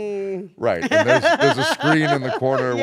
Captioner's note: laugh